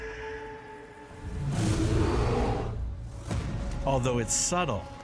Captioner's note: growl